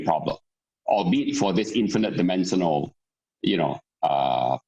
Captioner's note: murmur